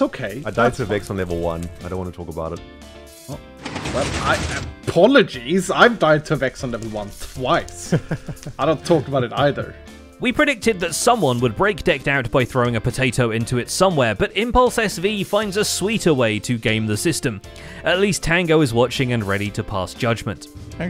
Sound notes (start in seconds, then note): 3.9 stammers; 7.8 chuckles